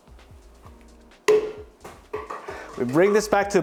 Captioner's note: popping sound